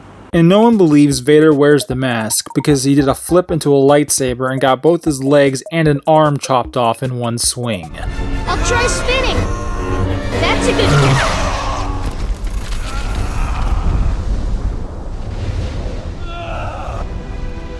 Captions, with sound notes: ;And no one believes Vader wears the mask because he did a flip into a lightsaber and got both his legs AND an arm chopped off in one swing. [Anakin screaming as he's flying towards Obi-Wan] ANAKIN SKYWALKER FROM Star Wars: The Phantom Menace: I'll try spinning! [Anakin screaming as he's flying towards Obi-Wan] [Anakin screaming as he's flying towards Obi-Wan] That's a good— [Anakin screaming as he's flying towards Obi-Wan] [Anakin screaming as he's flying towards Obi-Wan] [Anakin screaming in pain]